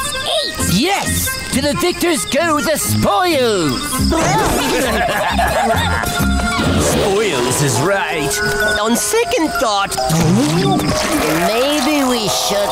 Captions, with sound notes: Yes! To the victors go the spoils! [laughing] Spoils is right. On second thought... [vomiting] Maybe we shouldn't-